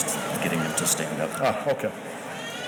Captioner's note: murmurs